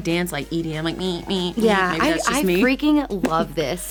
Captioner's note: beatboxes